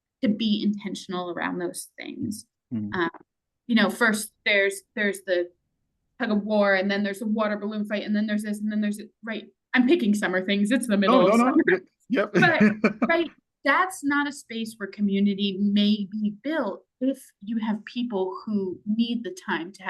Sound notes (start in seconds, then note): 12.2 laughs